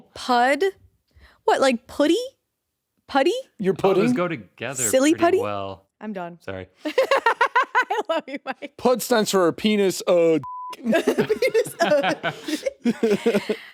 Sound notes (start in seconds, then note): 6.9 laughing; 10.4 beeps; 10.8 chuckles